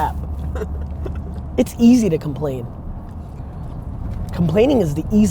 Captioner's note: laughs